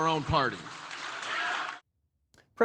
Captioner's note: cheering